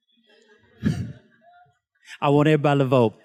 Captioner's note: students laughs